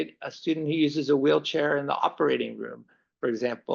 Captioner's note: none